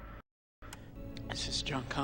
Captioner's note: click